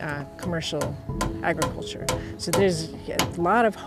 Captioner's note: hammering